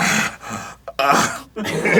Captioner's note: arin snorts in protest; sobs a little